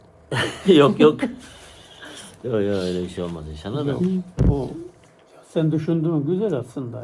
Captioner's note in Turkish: kahkaha